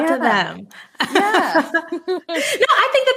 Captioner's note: laughing